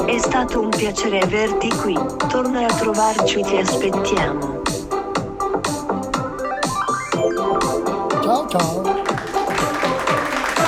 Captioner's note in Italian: Applauso